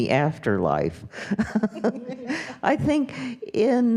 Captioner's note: laughs